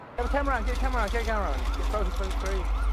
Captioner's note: sirens wailing